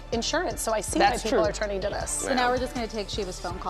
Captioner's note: laughter